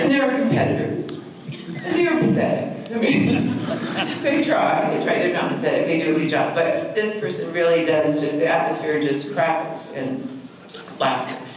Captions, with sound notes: And there are competitors and they are pathetic. [laughter] They try, not pathetic they do a good job, but this person really does, just the atmosphere just crackles in laughter.